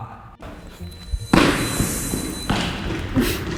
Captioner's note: feet thumping